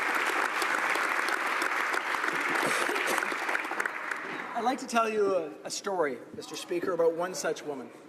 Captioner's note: applause